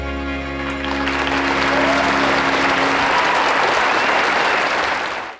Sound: audience applauding

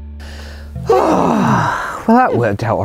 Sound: sigh

